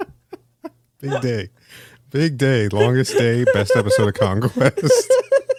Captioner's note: laughing